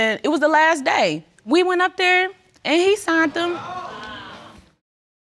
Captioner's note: audience exclaiming